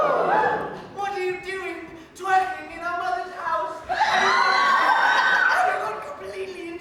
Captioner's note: audience screams and laughs